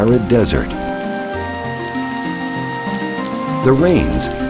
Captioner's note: hissing rain; lively, enchanting music